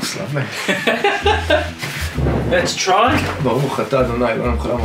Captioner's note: laughs